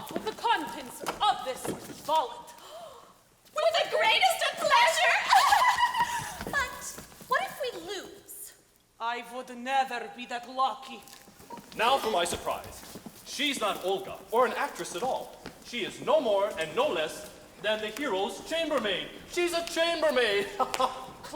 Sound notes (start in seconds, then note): 2.6 gasping; 5.1 girls tittering; 20.0 laughing